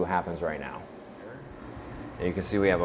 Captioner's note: machine whirring